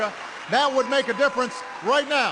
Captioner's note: applause